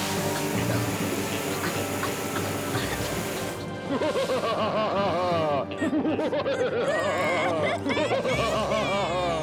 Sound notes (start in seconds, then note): 3.8 evil laughter; 6.5 child crying